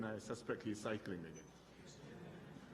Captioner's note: laughter